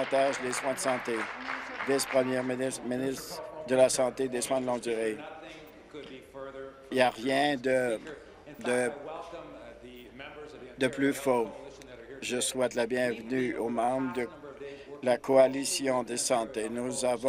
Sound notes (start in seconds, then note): 3.1 applause